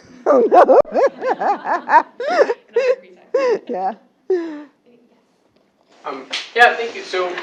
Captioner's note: laugh